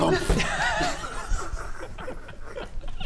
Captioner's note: outrageous laughter